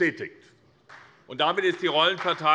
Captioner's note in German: Demonstrativer Beifall CDU und BÜNDNIS 90/DIE GRÜNEN